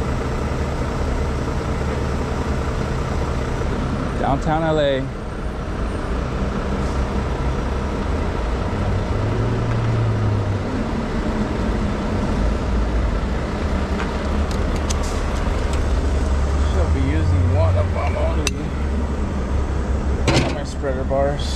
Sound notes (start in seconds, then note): 0.0 motor rumbling; 7.8 motor rumbling